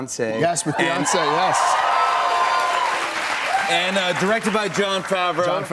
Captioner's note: cheers and applause